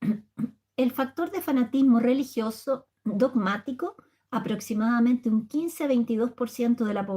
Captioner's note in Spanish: carraspeo